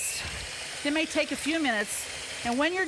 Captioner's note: beaters whirring